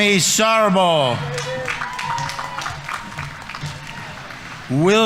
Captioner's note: audience members cheering; audience applauding